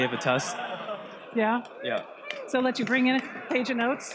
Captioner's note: audience wowing